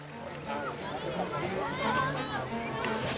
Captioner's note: people chatting; uptempo violin music